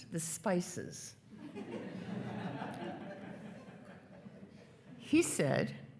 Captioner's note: attendees laughing